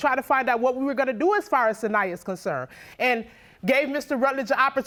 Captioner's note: none